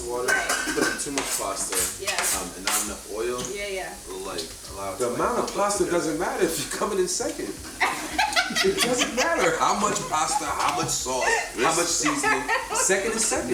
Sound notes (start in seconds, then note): 7.7 Angela laughs